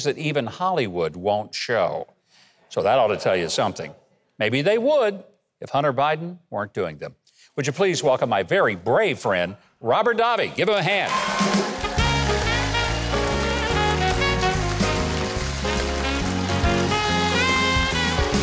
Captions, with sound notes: that even Hollywood won't show, so that ought to tell you something. Maybe they would if Hunter Biden weren't doing them. Would you please welcome my very brave friend, Robert Davi. Give him a hand. (audience applauding) (upbeat music)